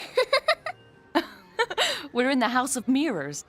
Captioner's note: laughing